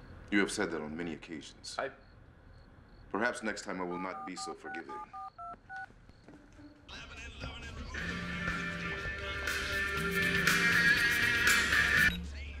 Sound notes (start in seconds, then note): 3.8 dialling tones; 7.8 ringtone plays